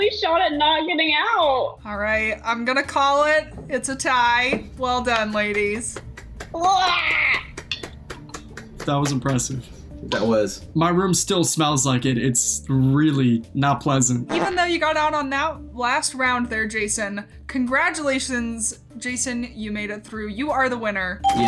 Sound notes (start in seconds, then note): 5.1 clapping